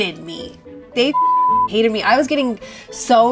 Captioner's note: beep